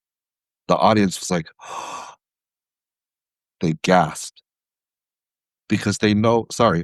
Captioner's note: breath